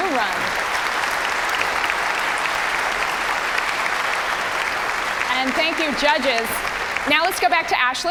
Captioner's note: applause